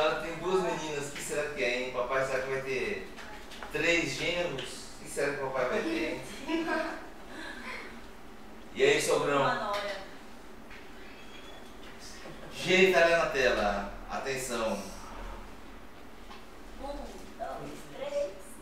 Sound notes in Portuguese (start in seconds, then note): 6.2 risos